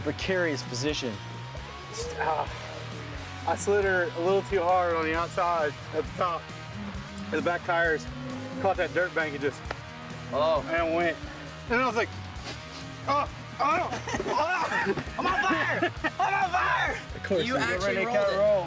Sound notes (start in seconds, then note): 12.1 sniffs; 13.8 laughter